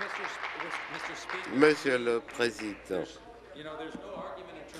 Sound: applause

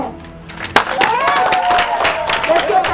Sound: cheering, clapping

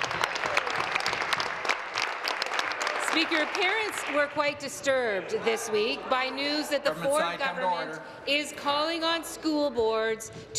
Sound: applause

